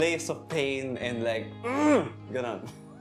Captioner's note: arghhhughgh